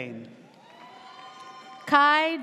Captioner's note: audience cheers